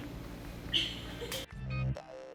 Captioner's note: laughs; warm upbeat music